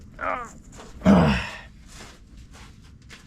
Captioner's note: tired pants